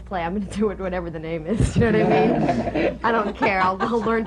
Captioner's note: laughter